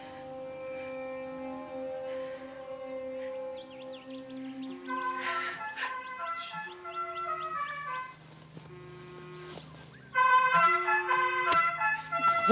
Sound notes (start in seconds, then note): 4.5 musical ringtone